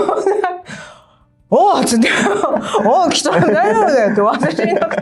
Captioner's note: laughs